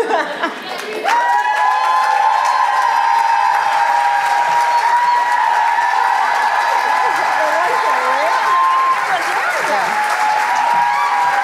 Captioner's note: applause